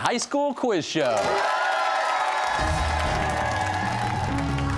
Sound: cheers and applause

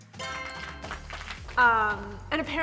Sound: applauding

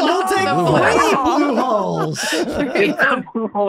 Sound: everybody laughing

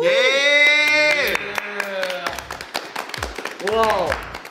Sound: clap

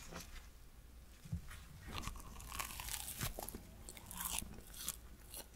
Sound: eating sound

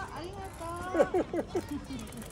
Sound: laughing

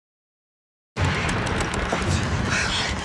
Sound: doorknob rattling

